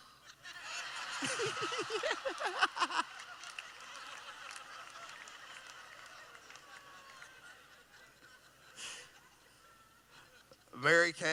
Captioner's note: laughing